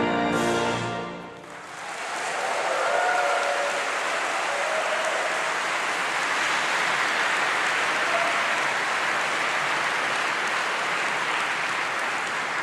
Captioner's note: applause